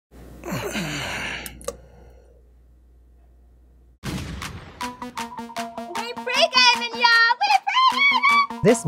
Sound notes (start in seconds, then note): 0.5 grunting; 1.8 liquid plops; 4.0 gunshot fires